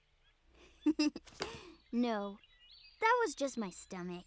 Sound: giggles

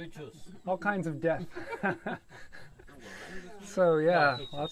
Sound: laughter

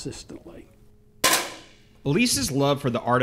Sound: small shot fired

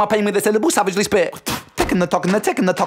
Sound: hhhawk-tuh!

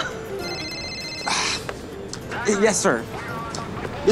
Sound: phone ringing

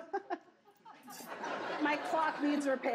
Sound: audience laughs

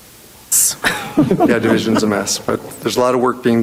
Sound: members laughing

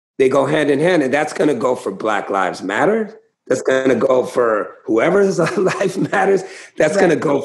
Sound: laughter

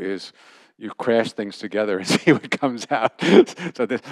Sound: laughter

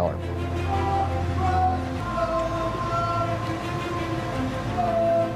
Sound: soldiers chanting

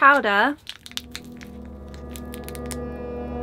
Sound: spoopy sound effect

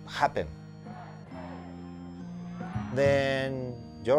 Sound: people chanting

